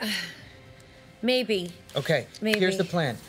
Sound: sighs

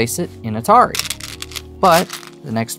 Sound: stones rattling

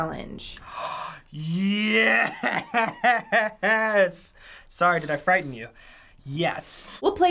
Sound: gasps

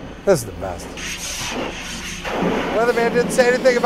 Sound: water whooshing

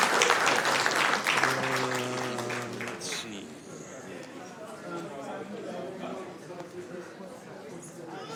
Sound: cheers and applause

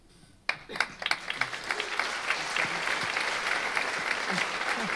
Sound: audience applauding

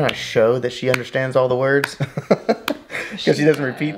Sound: laughs

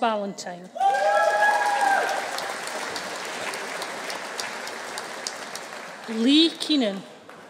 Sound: audience cheering; audience applauding

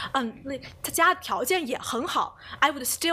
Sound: speaks Mandarin

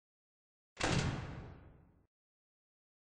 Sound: door noise

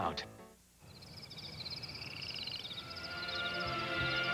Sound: nighttime insects chirping; insects continue over intro

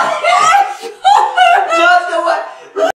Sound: loud laughing

